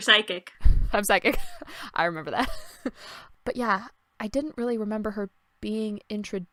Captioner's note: laughter